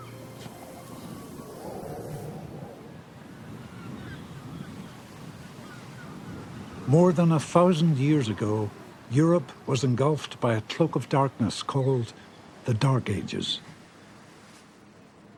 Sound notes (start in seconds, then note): 3.2 seagulls squawking